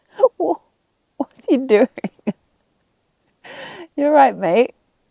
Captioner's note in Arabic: يضحك